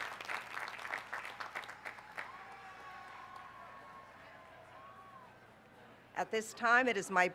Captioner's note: applause